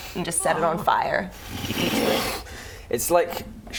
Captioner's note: whoosh